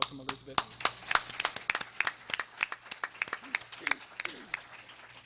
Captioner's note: everyone applauding